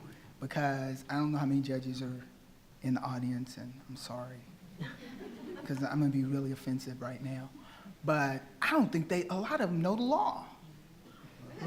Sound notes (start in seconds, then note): 4.8 attendees laughing